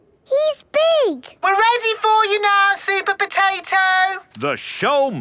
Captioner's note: through megaphone